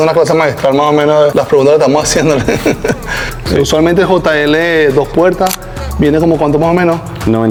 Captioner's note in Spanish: risas